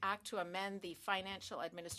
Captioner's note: speaking in French